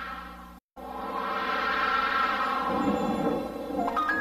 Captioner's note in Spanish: ruido silencioso sintetizado